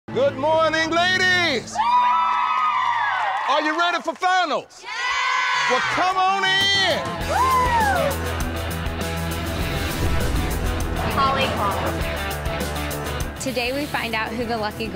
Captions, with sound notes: - Good morning ladies! (cheering crowd) Are you ready for finals? - Yeah! (crowd yells) - Well, come on in! - Whoa! (rock music) - Callie - Today we find out who the lucky